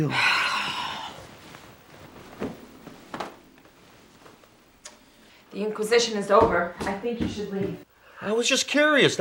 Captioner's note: sighs